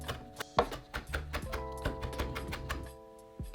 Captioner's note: chopping